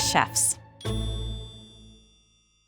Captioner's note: bell rings